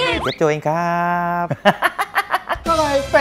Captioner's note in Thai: หัวเราะ